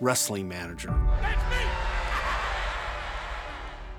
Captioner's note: laughs